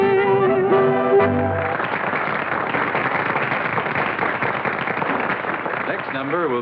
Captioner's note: applause